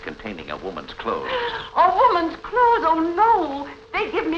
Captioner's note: gasp